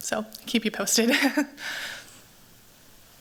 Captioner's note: laughs